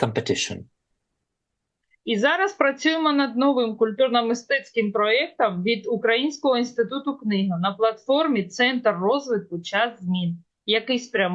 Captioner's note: foreign language